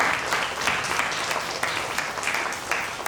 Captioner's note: applause